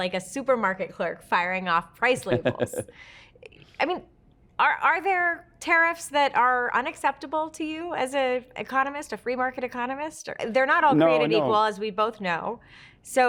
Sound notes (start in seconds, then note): 2.1 Kevin laughs